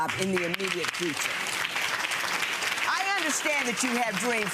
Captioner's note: audience applauding